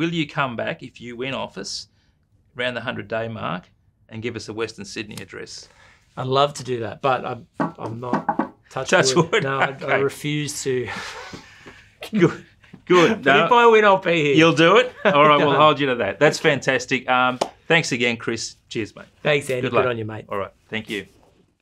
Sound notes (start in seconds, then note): 8.1 knocks on small table 4 times; 12.8 laugh